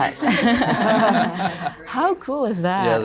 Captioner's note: laughter